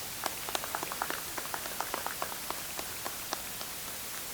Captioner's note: audience applauds